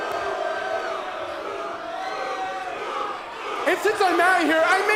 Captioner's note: crowd chatter